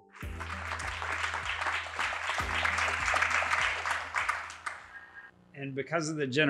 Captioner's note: applause